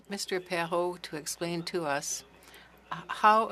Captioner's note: speaking French